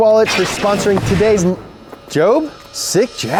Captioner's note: electronic boom